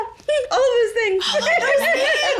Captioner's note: laughs